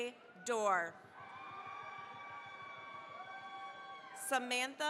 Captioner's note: cheering, applause